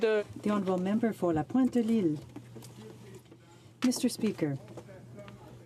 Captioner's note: speaking in french